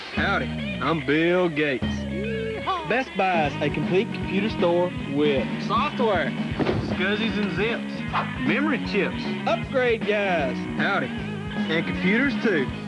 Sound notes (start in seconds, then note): 6.4 boxes fall